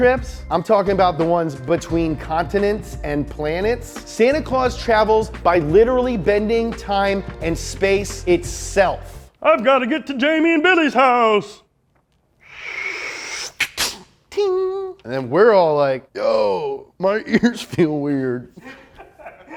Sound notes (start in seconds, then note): 12.1 whooshing air; 18.5 laughs